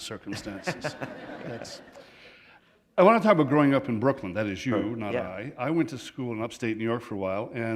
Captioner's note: laughter